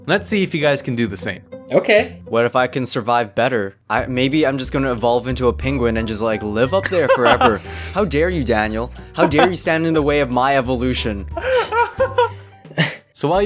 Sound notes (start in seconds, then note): 11.3 laughing